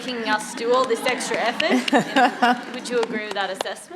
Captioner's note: laughter